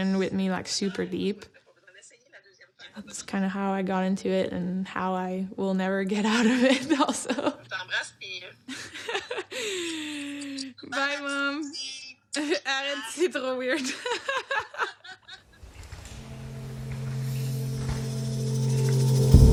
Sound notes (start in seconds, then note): 7.0 laughs; 9.4 speaking foreign language; 12.1 foreign language; 15.7 dramatic music